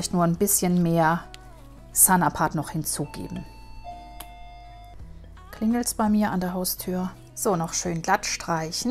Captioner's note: ding dong!